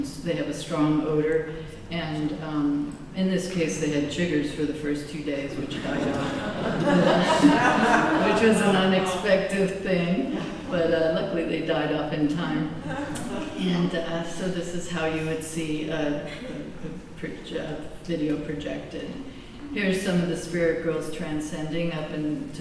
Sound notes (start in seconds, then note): 5.8 laughter